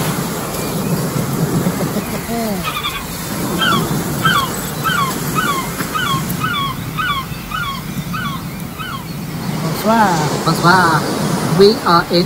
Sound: sound of waves crashing onto the shore; sound of gulls flying over head

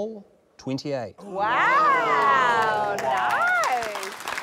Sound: applause

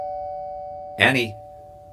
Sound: doorbell rings

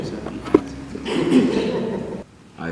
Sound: laughing

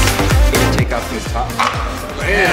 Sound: bright electronic music; plastic popping

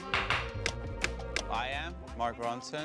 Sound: ticking

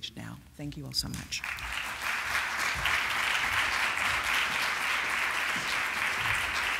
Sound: applause

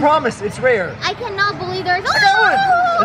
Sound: shrieks

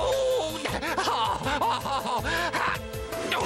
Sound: sobbing

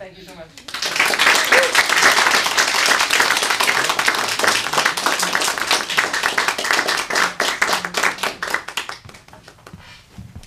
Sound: applause

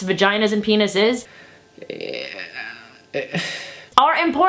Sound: groan and sigh

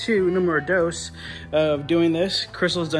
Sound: foreign language

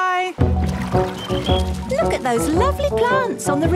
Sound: chirping

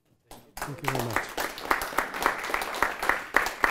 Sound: applause

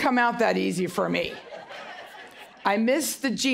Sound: audience Laughing

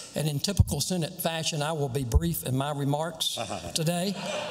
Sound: laughter

